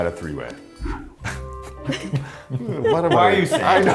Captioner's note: producer laughs